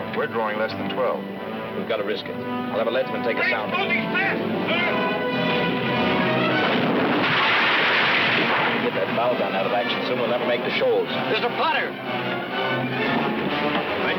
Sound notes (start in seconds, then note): 5.0 adventurous music; 6.6 cannon firing; 12.6 dramatic music